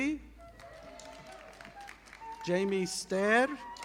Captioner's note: audience applauding